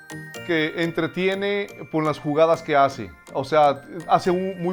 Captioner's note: foreign language